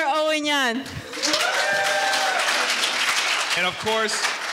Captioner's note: audience cheering and applauding